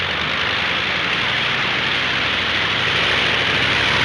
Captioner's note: engine droning